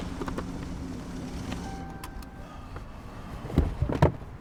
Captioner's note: car dings